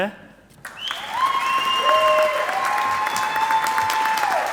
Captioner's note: audience applauding